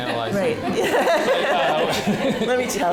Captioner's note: audience laughing